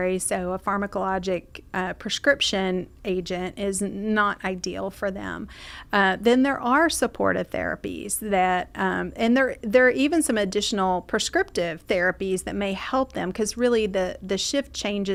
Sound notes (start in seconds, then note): none